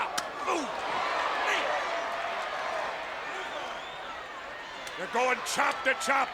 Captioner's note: audience cheers